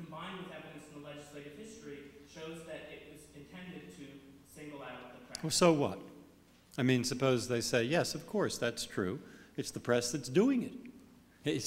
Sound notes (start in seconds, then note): none